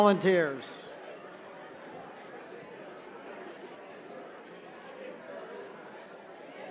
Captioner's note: chatter